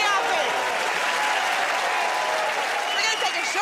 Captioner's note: cheers and applause